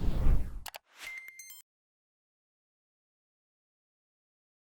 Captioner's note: letters beeping